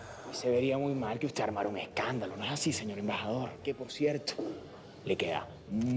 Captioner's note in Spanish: none